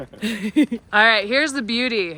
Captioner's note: laughs